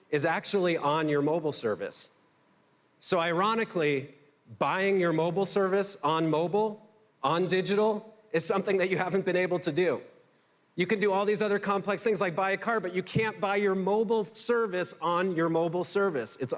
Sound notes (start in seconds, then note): none